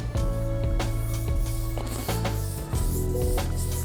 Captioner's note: brush swiping